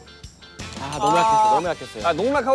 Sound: tears

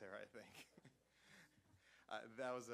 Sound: laughter

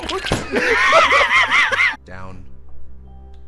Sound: laughter

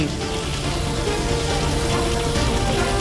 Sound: fire crackling

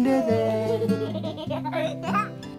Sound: giggles

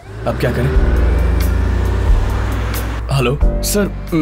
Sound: bus engine revving

